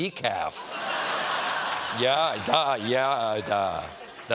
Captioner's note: laughter